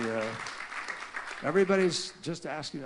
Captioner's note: laughter and applause